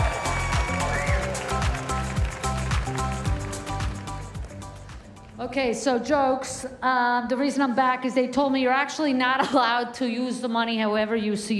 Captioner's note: applause